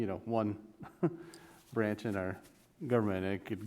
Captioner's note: laughs